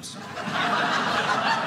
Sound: audience laughing

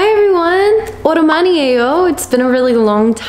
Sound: speaks in foreign language

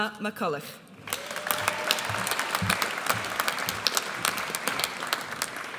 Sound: audience applauds

